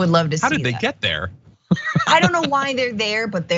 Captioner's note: laugh